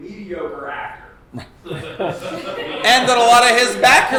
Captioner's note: laughing